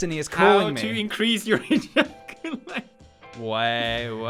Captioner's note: giggle